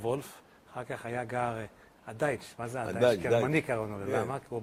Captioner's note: German